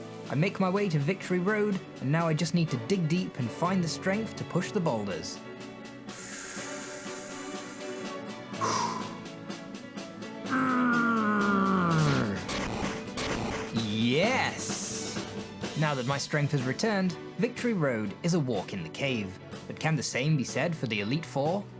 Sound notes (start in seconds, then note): 10.4 grunting